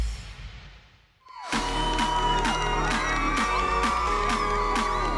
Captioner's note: cheering